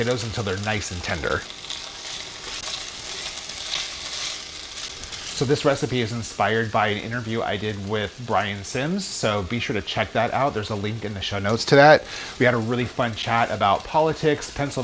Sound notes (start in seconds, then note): 2.1 sizzling